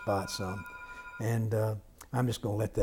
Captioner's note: phone ringing